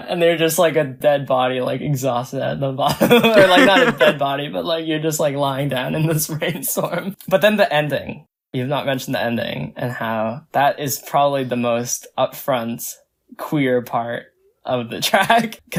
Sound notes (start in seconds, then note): 2.9 both laugh; 6.9 laughs; 15.0 laughs